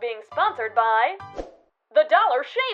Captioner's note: swish